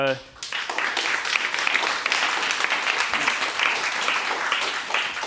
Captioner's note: applause